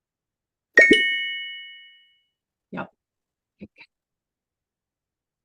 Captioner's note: computer chimes